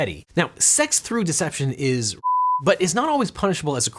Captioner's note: beep